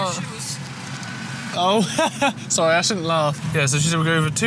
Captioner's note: laughs